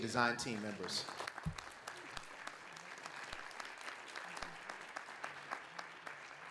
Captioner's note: audience and panelists applaud